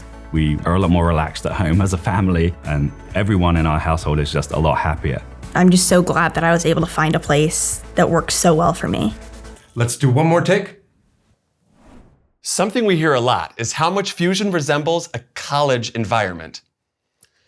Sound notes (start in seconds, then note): 11.6 camera swooshes